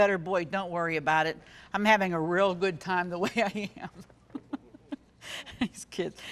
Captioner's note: laughing